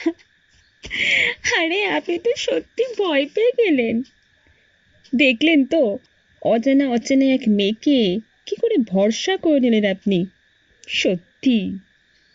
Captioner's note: girl laughed; laughing